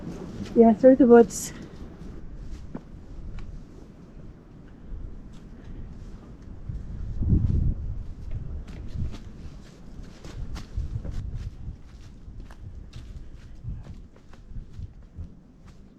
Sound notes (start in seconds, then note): 4.5 wind